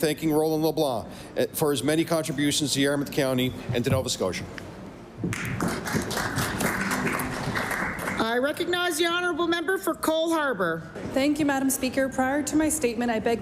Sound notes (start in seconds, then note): 8.4 applause